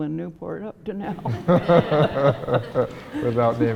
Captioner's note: laughing